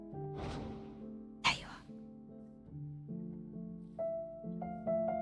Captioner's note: whispered